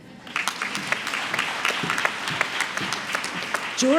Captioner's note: applause